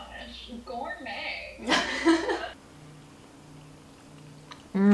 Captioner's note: laughs